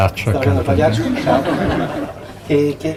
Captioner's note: laughing